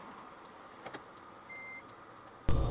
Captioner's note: digital beep